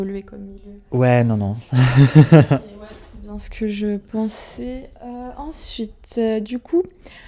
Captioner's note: laughs